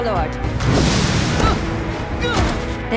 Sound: groaning

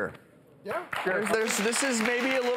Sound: applause

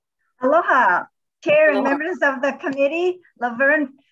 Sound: speaking foreign language

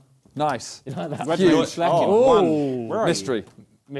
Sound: crowd mumbling

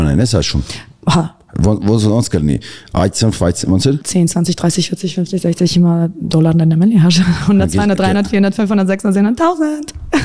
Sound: speech in German language

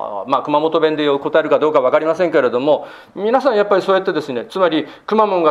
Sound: dialect

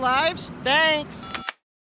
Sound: beeps

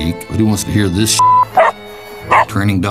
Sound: dog barking

